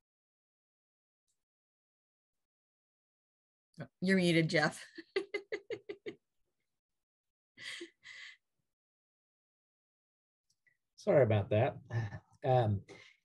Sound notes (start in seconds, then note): 8.9 laugh